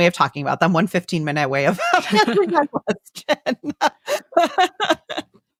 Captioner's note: laughs